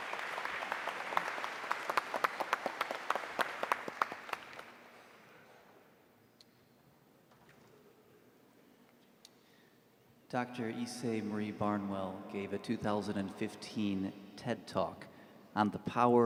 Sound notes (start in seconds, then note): 6.8 applause